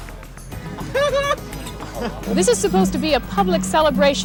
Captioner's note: chuckling